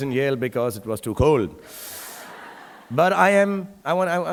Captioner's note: audience laughing